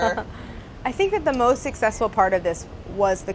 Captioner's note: laughs